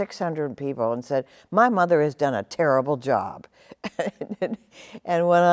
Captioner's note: chuckles